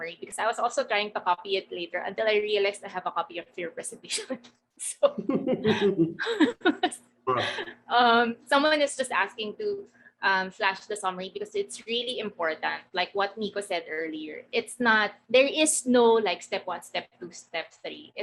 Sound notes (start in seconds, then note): 5.0 laughing